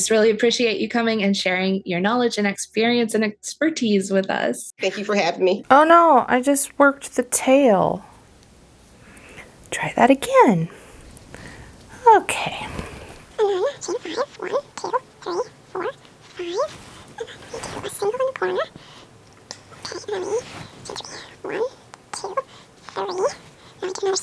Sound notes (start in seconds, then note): 13.7 chipmunk Voice